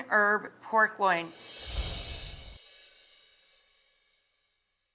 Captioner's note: bells chiming